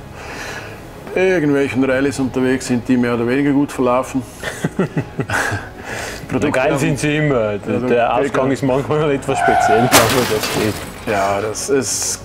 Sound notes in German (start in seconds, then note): 4.5 lacht; 9.3 carcrash